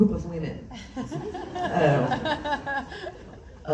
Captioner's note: laughs